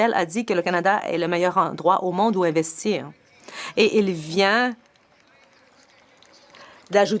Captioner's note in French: voix de l'interprète